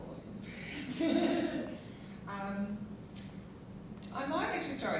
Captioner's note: laughing